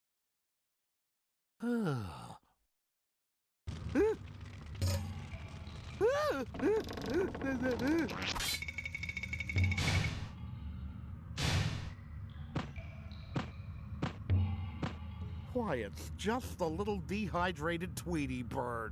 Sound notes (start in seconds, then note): 3.7 gasps; 6.6 door creaking; 9.5 loud footsteps approaching